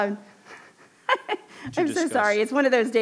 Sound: laughs

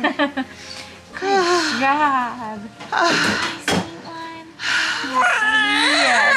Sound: laughs; panting; baby crying

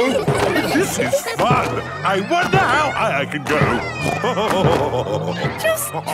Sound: laughing; snorting and laughing

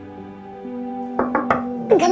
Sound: knocking

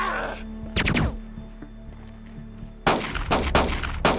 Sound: gun firing

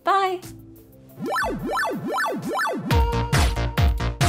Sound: electronic beeping; upbeat music

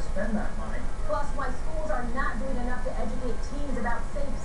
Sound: on TV

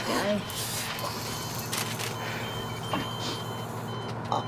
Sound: coughing

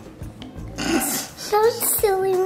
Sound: laughing

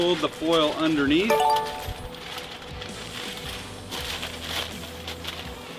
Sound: electronic bell ringing

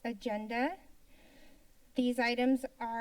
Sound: pause

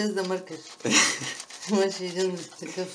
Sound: laughs

